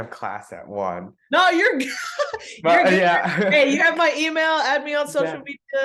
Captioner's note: laughs